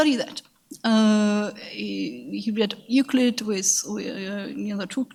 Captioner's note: speaks in a foreign language